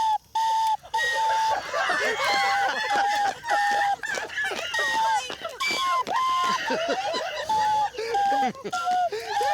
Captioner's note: playing on recorder; laughter; playing on recorder